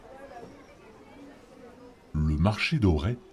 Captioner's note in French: Ambiance de marché